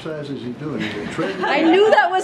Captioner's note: laughter